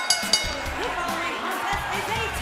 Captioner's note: bell ringing